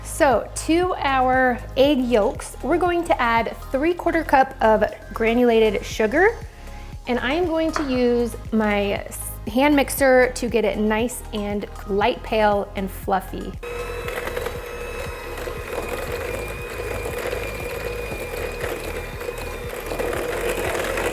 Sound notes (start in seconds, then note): 13.6 mixer whirring